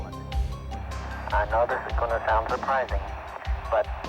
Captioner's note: on telephone